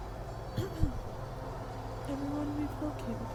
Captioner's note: clearing throat